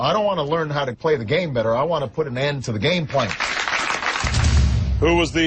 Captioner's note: crowd applause